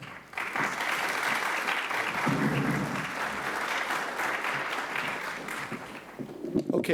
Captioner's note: applause